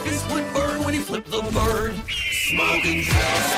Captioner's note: birdcall